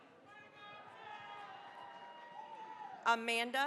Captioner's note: cheering, applause